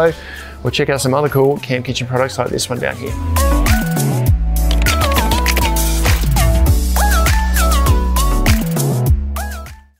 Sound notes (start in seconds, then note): 4.6 keystrokes tapping; 6.5 upbeat music